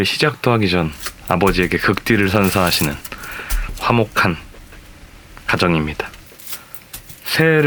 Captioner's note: swears